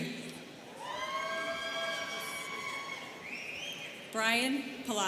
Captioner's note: students cheering